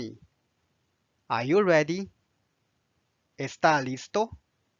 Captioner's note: Spanish